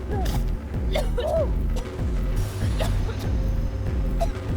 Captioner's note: coughing